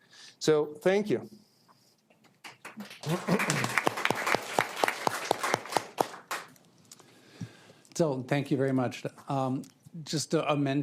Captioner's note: applause